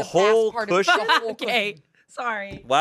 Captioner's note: laughs